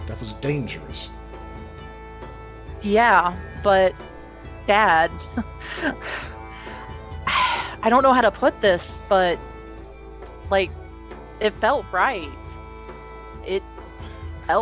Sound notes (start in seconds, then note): 4.7 laughs